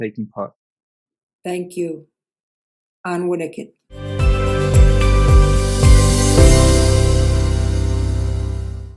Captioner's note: in Ktunaxa